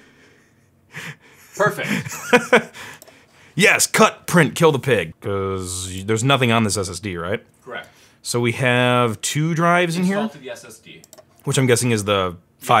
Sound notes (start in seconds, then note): 1.0 laughs